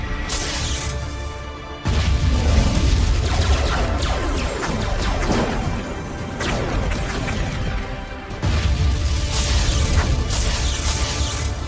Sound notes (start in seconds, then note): 1.8 cannons blasting; 1.8 explosions booming